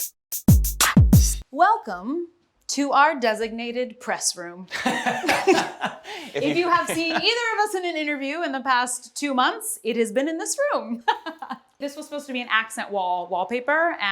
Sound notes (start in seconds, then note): 0.3 upbeat music; 4.7 laughter